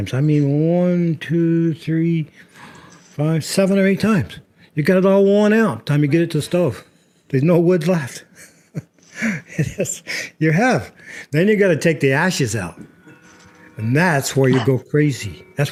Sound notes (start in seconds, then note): 9.0 laughs